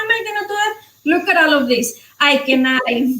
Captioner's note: speaking foreign language